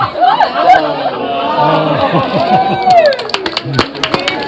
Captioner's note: clapping